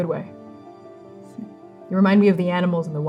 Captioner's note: scoffing